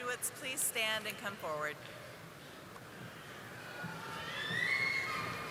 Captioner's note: audience cheering